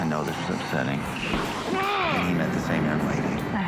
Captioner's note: grunting